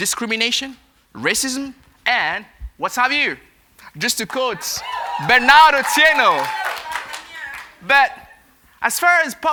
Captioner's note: applause